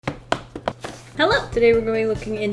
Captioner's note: tapping